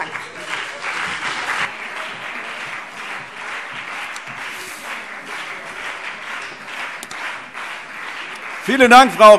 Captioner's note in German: Anhaltender Beifall CDU und BÜNDNIS 90/DIE GRÜNEN